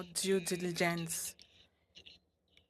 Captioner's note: speaking French